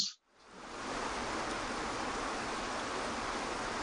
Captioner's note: waterfall rushes